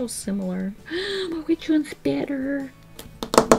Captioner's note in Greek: Κοφτή ανάσα